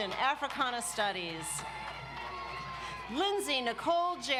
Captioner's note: audience cheers